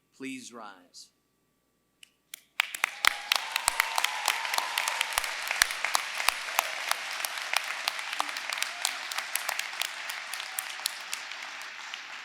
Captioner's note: applause